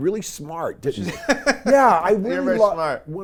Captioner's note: laughs